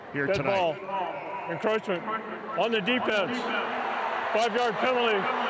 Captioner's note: fans cheer